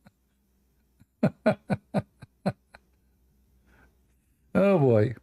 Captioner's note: Ketawa